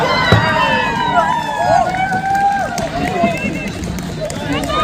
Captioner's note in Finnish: Aplodeja